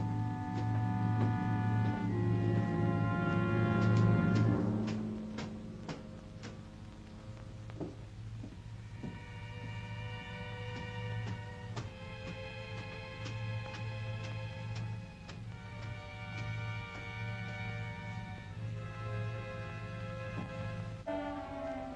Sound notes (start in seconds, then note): 0.3 dramatic ominous music; 0.3 footsteps up stairs; 5.2 ominous music; 18.4 ominous music